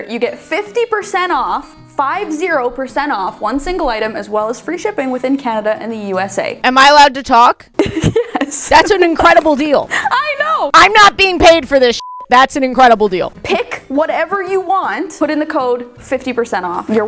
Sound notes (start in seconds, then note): 7.8 laughs; 11.9 beep